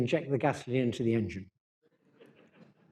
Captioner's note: laughter